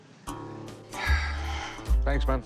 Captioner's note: sighs